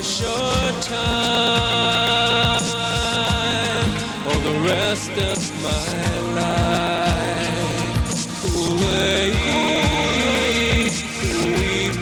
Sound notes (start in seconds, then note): 1.7 groaning and screaming